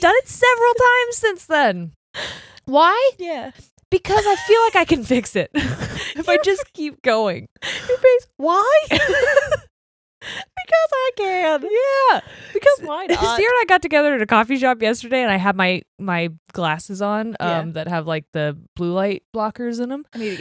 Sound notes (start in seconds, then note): 4.1 laughs; 5.5 both laughing; 5.6 laughs; 8.8 laughing; 8.8 laughs